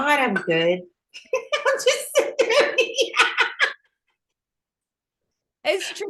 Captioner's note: laughing